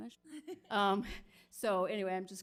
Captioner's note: laughing